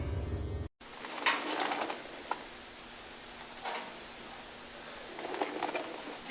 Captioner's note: sliding door grinds